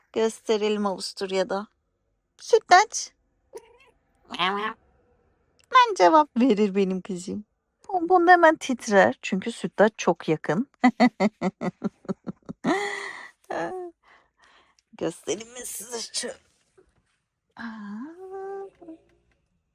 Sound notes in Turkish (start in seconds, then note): 10.8 kahkaha